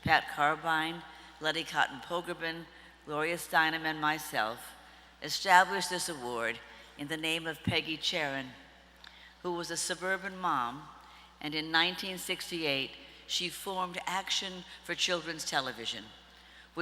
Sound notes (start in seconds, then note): none